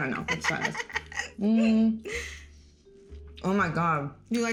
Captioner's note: laughing